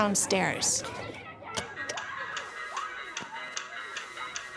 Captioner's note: people yelling; upbeat music